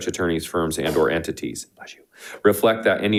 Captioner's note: board Member sneezing